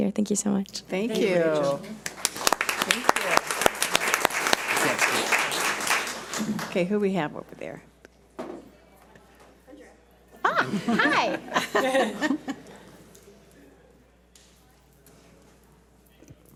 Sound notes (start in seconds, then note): 1.2 audience applauds; 10.4 board laughs